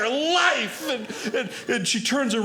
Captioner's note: audience laughing